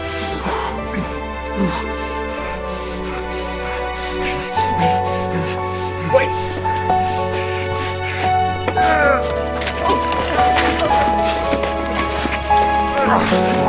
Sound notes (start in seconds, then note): 0.6 john breathing heavily; 12.5 shouting and struggling